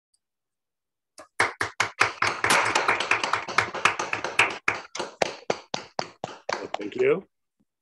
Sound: applause

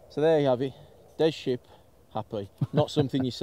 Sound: laughs

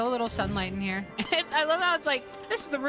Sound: laughing

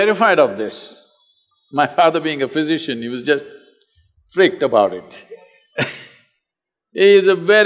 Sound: laughs

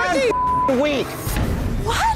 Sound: beep

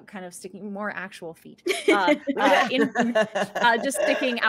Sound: group laughing

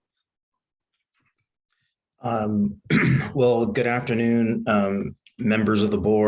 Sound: clears throat

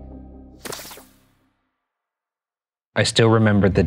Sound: static hissing

